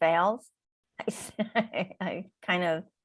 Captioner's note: laughing